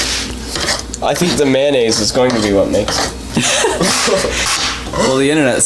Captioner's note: laughter